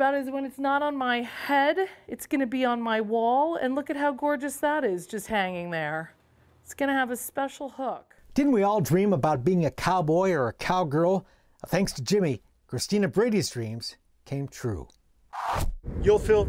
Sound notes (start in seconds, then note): none